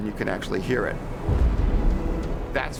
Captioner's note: sonic boom thunders